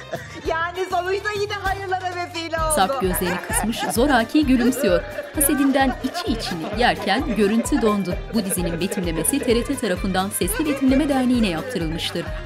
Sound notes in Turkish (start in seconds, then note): 0.0 Gülme sesi; 2.8 Gülme sesi